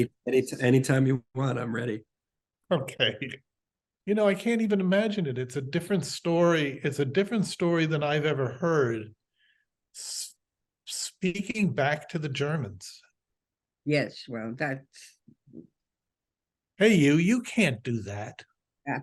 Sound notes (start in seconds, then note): 3.4 laughs